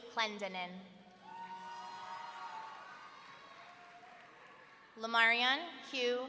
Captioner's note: audience cheering